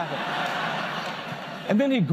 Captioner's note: laughter